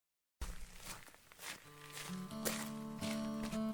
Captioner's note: foosteps